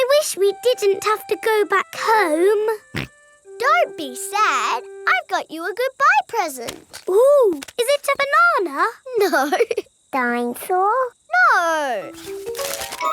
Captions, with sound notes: I wish we didn't have to go back home. (SNORTS) Don't be sad. I got you a goodbye present! Ooh, is it a banana? (LAUGHING) No! Dine-saw? No.